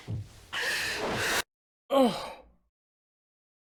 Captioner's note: audio cuts out; Skull gasps